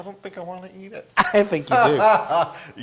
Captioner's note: laugh